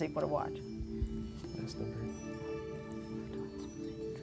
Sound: whispering

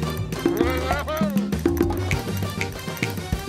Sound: snaps

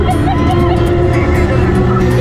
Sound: giggling; cars roaring

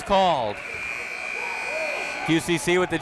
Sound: buzzer goes off

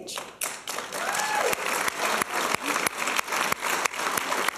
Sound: applause and cheers

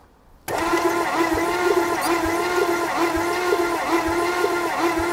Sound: vehicle engine humming

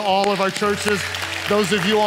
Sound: congregation applauding

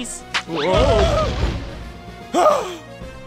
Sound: crashing

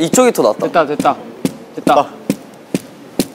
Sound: tapping

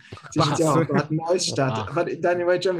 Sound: German

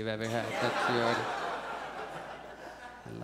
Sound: audience laughs

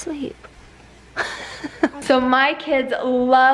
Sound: laughs

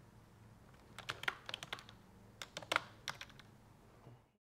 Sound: keyboard clacking

